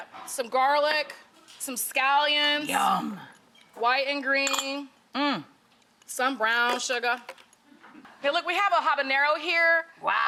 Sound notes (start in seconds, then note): none